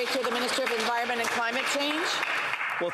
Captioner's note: applause